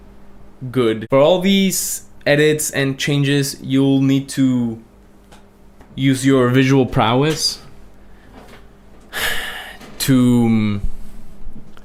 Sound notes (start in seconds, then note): 9.1 sighs